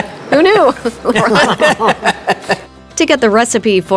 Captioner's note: group laughing